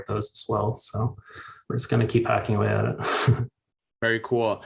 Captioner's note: chuckles